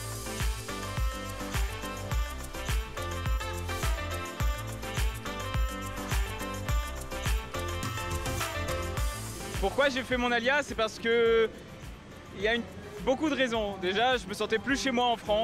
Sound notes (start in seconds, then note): 0.0 upbeat music; 10.0 speaking foreign language